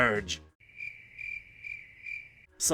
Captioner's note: crickets chirping